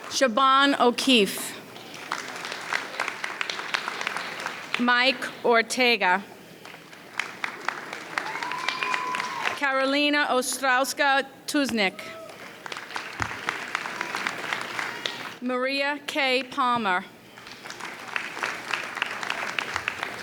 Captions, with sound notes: Siobhan O'Keefe. (audience applauds) Mike Ortega. (audience cheers) Carolina Ostrowska Tusnik. (audience applauds) Maria K. Palmer. (audience applauds)